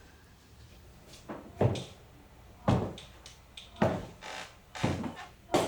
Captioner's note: boots stomping